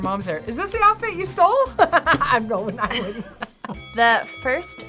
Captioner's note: laughs